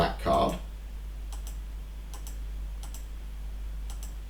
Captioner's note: clicking on screen